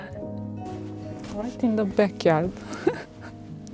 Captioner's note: laughs